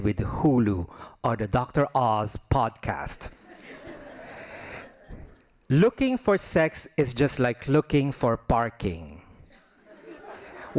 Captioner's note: laughing